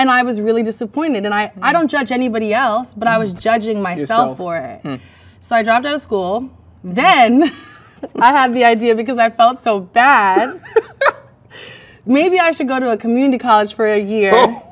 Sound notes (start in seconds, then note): 6.7 laughs; 10.4 man laughs